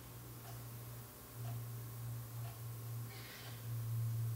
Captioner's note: ticking clock